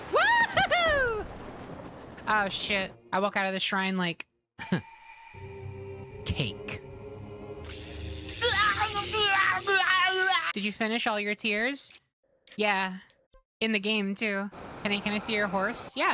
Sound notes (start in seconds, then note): 4.5 cocky Voice; 7.6 Penny Being Electrocuted